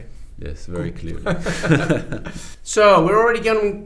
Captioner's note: both laugh